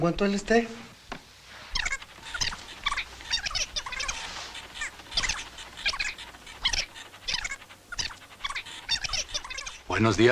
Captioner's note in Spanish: Cinta rebobinando